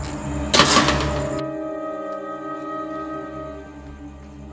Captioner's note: gate clatters shut